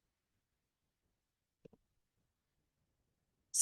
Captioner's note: silence